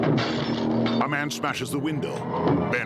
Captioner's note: banging intensifying; glass crashing; suspenseful music